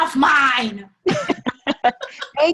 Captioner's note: laughter